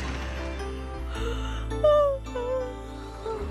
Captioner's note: yawns